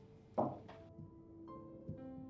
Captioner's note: cup dropping onto table